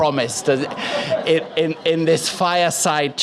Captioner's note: audience Laughs